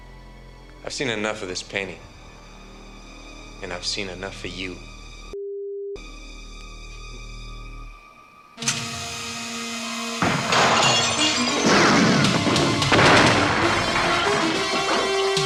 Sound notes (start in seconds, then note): 8.5 dramatic music; 8.9 screen whirring; 10.2 glass shattering; 11.6 guns firing